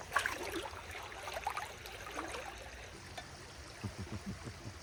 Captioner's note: water babbling